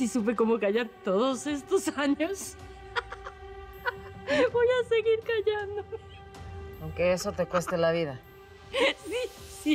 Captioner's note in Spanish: Risas